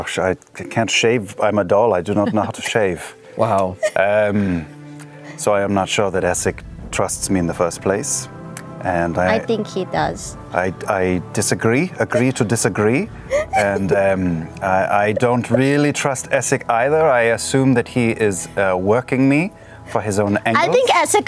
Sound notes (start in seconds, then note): 0.0 Caleb voice; 8.9 jester voice; 10.4 Caleb voice